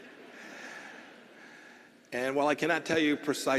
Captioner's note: laughter